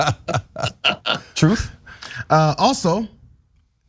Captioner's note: laugh